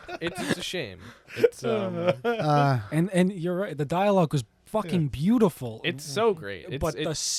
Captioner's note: laughter